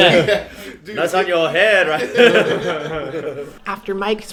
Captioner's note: laughter